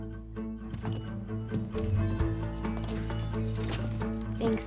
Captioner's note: bell jingles